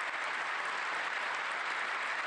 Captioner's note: applause